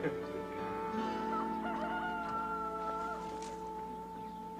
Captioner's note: rooster crows